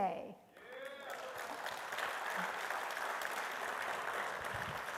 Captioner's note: attendees applauding